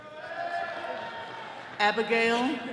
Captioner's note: attendees cheering